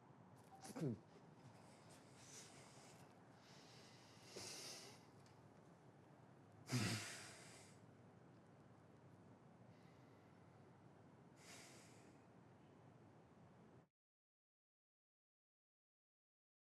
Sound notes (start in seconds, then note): 4.5 Jimmy sighs